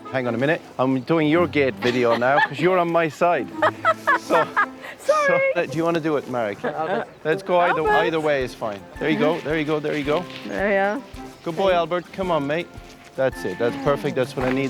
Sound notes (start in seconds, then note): 3.6 all laughing